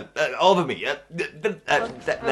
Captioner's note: incoherent stuttering